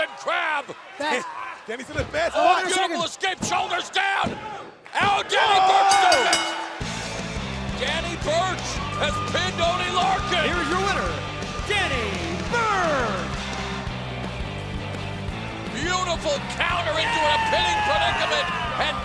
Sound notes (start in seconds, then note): 5.8 bell ringing